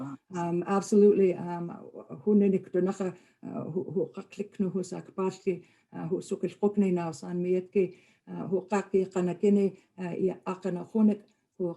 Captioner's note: speaking Ktunaxa